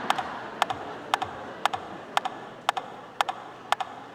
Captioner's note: audience laughing